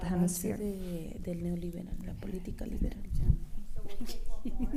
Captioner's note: speaking spanish